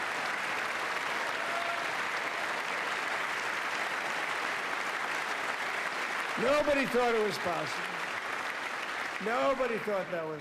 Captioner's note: applause